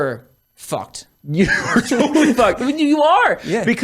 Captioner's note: laughs